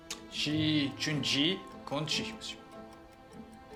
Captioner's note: talking in chinese